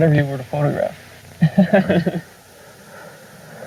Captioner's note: lLAUGHTER